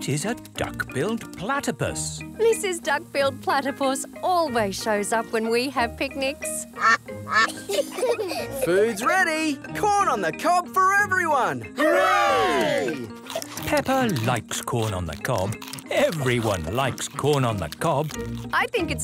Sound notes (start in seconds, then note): 6.7 quacking; 7.3 children giggle